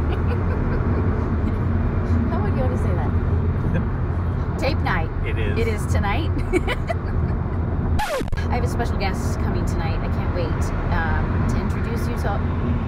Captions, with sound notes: [chuckles] How would Yoda say that? Tape night, it is tonight. [laughs] [record scratch] I have a special guest coming tonight. I can't wait. to introduce you to all - [stutters]